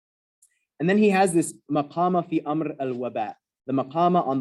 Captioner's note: non-english